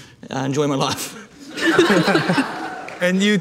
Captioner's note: audience laughing